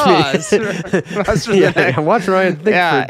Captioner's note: laughing